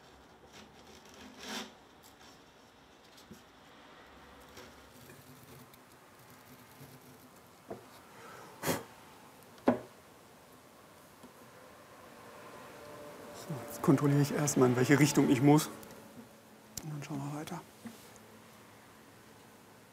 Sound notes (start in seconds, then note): 8.6 blowing